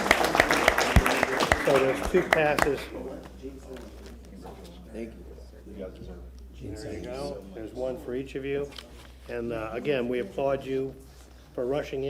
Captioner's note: applause